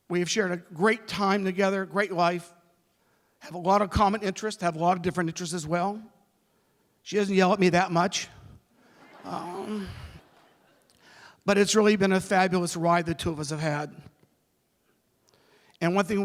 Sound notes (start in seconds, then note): 10.1 laughter